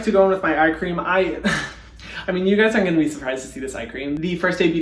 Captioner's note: laughing